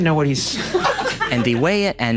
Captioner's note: staff laughing